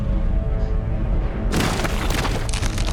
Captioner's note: thud sound